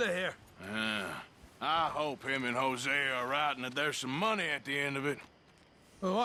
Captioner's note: grunts